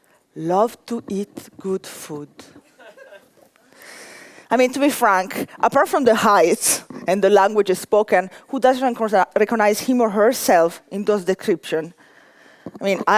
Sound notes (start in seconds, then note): 2.6 laughter